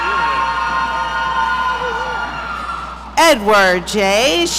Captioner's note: audience cheering